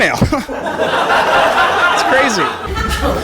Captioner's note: laughter